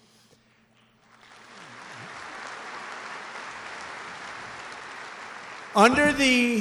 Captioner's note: applause